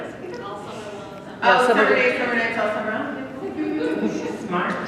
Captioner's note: laughter